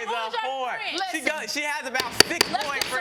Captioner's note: pounding gavel